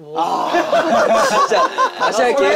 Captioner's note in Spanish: Jajaja